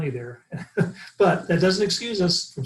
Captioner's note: laughing